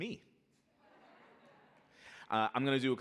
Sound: audience laughing

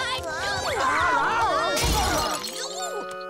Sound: screaming, shattering

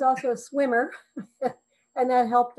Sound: chuckles

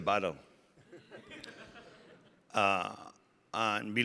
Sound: audience laughing

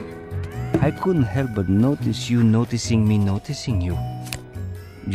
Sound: Death/Wolf accent

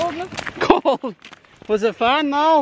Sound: laughing

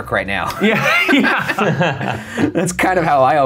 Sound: nervous laughter

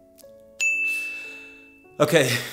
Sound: chiming

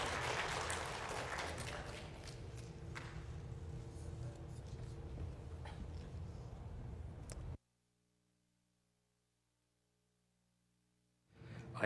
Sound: applause

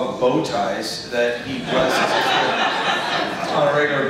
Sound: audience laughs

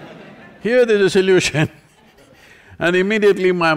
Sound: laughter; laughs

